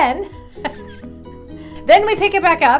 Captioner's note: chuckling